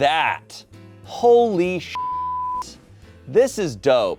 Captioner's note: beep